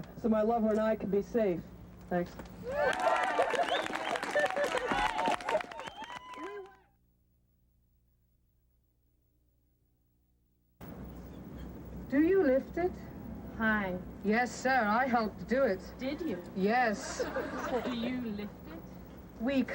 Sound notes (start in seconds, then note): 2.6 cheers, applause